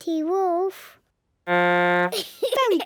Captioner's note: blows horn, giggles